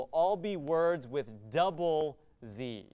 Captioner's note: none